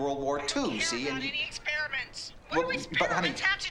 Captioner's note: on phone